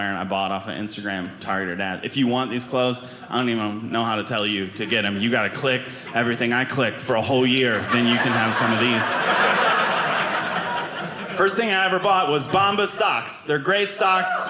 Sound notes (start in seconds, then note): 8.9 audience laughing